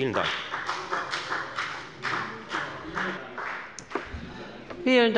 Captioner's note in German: Beifall bei der FDP